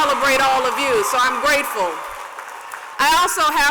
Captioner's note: cheers and applause